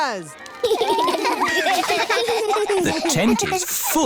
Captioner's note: laughter